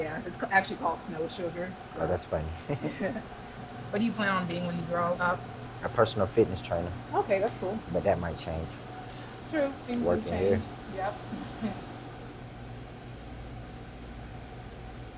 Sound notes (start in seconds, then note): 2.5 chuckling